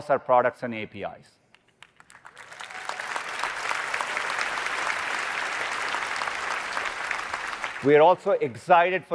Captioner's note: applause